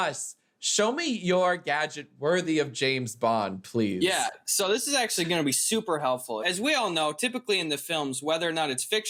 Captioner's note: none